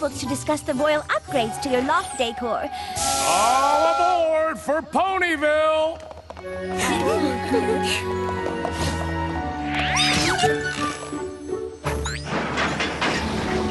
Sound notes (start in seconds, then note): 7.2 murmurs; 12.3 clattering train wheels